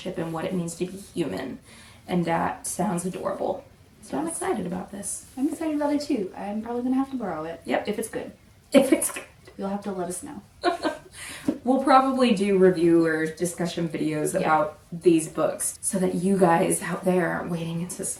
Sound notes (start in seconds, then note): 10.7 laughing